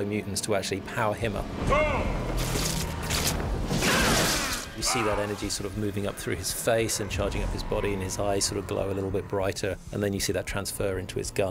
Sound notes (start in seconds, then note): 2.8 groans